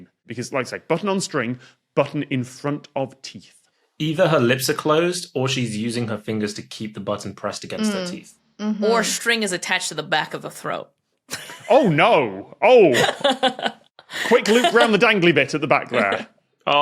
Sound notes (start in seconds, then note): 14.0 giggles